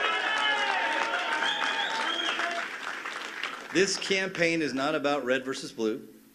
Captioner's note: cheers and applause